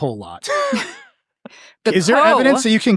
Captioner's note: all laughing